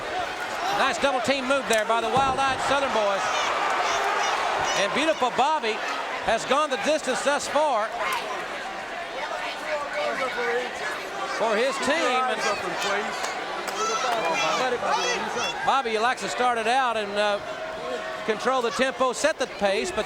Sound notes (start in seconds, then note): 12.8 audience cheering